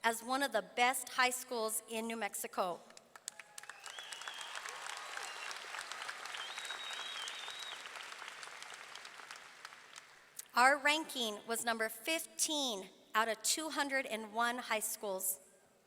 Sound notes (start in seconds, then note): 3.0 audience clapping; 3.3 audience cheering